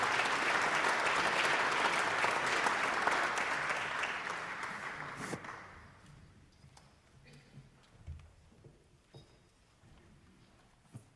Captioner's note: applause